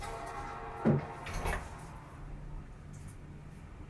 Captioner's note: computer start-up chime